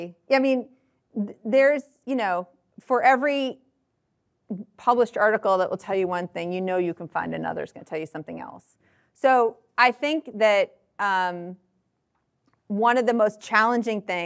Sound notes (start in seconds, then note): none